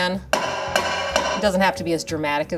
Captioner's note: pan banging